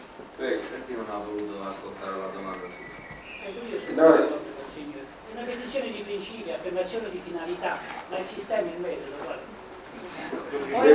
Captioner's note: italian